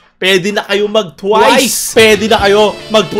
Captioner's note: none